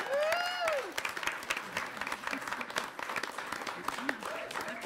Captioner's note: applauding and cheering